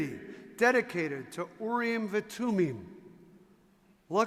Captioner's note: speaking in foreign language